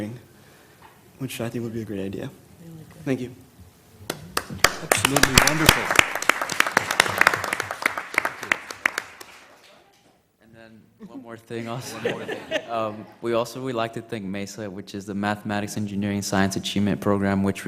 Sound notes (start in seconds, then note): 11.6 laugh